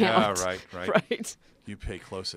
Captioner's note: laugh